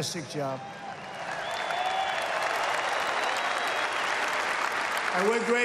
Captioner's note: applause